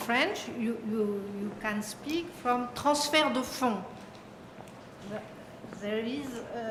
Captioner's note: french